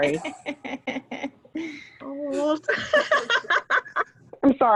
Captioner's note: laughter